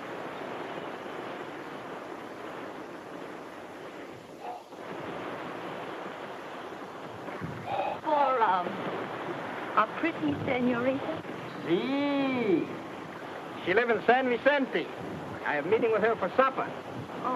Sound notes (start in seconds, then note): 5.0 exhales; 5.0 waves crash; 11.8 speaks in foreign language